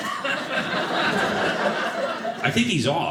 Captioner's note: audience laughing